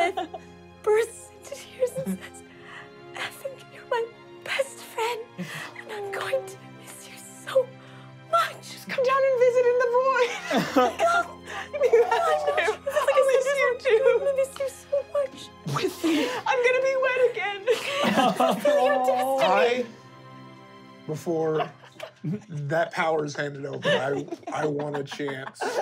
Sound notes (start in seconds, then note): 11.8 crying